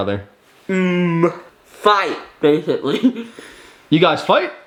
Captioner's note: laughs